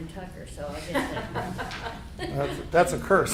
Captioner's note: group laughs